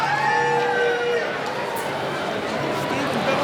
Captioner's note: cheering